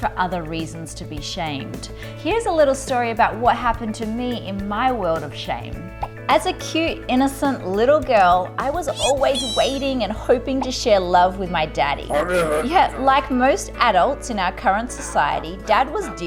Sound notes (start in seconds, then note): 12.6 man grumbling